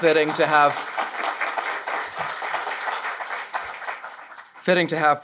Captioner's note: audience clapping